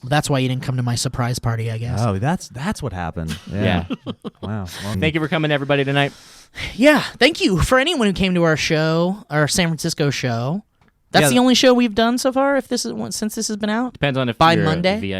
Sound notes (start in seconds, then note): 3.3 laughing